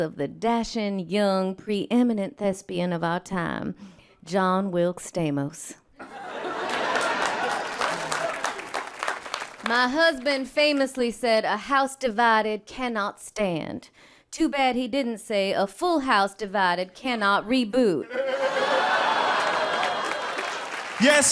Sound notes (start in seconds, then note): 6.0 people laughing and clapping; 18.0 people laughing